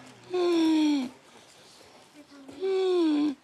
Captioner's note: wheezes